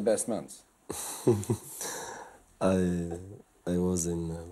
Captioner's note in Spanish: se ríe